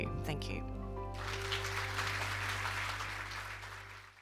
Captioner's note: cheers and applause